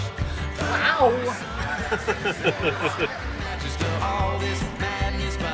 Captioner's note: laughs